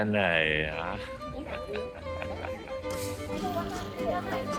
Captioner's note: bitter laugh